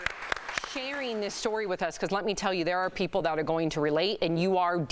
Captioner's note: applause